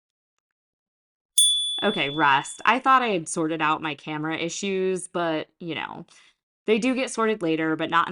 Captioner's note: chime